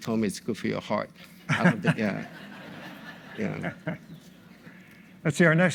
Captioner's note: audience laughs